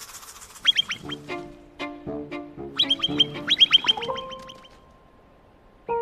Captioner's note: The calls of pikas